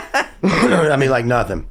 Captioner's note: laughing